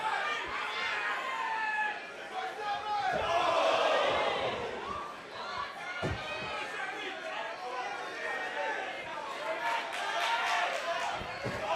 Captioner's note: crowd chatter